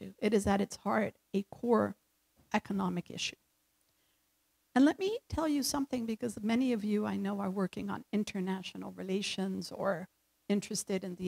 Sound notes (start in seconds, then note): none